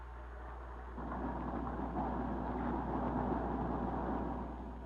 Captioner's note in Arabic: محرك السيارة يدور